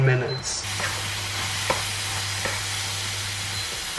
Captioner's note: sizzling intensifies